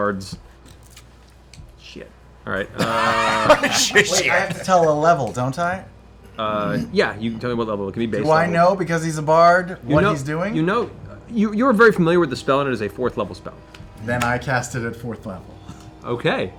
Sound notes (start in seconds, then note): 2.6 laughs